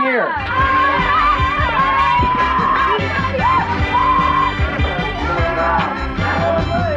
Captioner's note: people cheering; upbeat synthesizer music